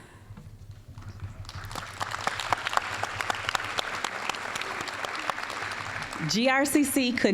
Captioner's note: applause